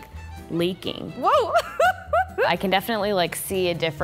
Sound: laughs

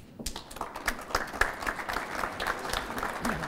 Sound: applause

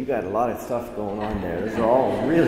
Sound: assembly chuckles

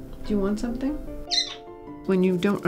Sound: griffin chirps

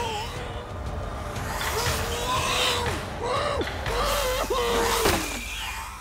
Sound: groaning

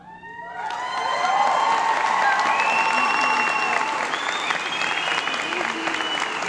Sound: applause

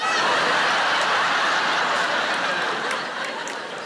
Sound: audience laughing

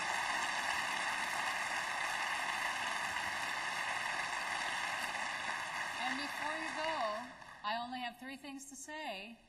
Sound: applause

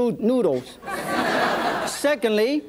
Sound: audience laughs

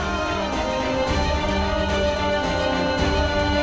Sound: emotional vocalising

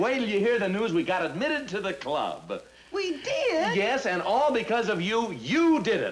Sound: none

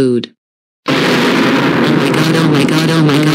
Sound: goanimate scary sound

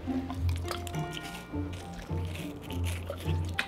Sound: dog chewing

